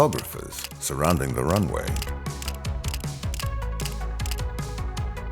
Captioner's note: camera clicking